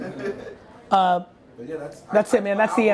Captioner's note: laughing